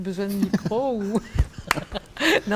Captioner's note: laughs